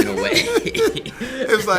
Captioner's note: laughing